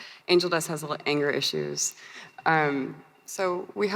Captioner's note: none